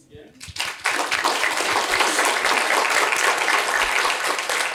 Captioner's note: applause